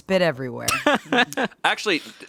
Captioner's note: laughs